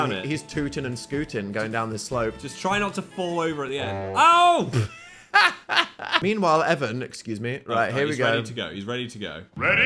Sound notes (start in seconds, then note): 4.4 laughs